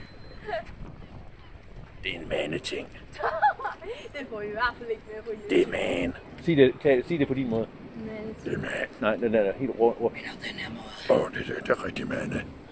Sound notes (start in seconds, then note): 0.2 laughs in the background; 3.1 laughs